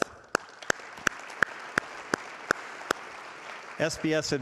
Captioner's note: audience applauding